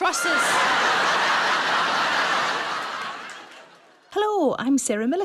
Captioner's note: audience laughing